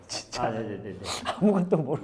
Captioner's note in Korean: 훌쩍